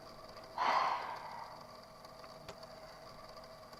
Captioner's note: sighs